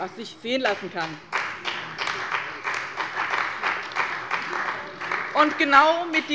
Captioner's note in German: Beifall bei dem BÜNDNIS 90/DIE GRÜNEN und der CDU